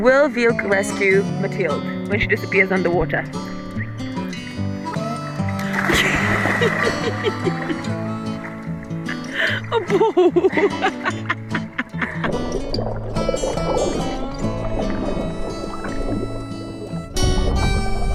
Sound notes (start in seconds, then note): 5.6 water splashing; 9.1 laughing; 12.3 gentle guitar music continues